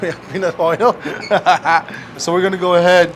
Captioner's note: laughing